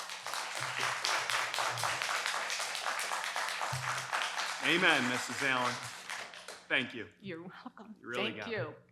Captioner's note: applause